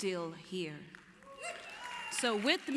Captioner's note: applause